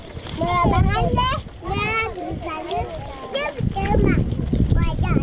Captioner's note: speaking foreign language